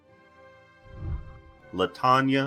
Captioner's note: whooshing